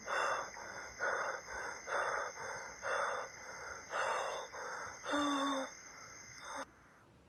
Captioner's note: sighs and panting; sighs